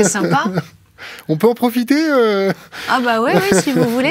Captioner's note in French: Rires